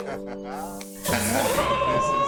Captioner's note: woman screaming